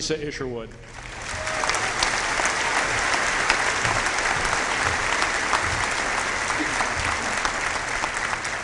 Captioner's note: applause